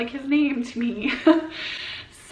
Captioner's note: laughs